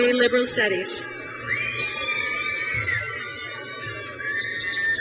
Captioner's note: crowd cheers